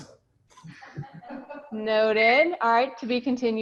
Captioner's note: laughs